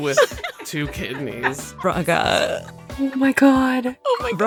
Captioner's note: EVERYONE snickers